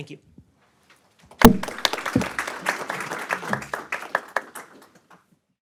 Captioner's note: audience applauds